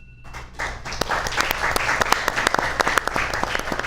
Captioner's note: audience applauds